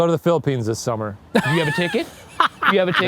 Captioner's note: laughing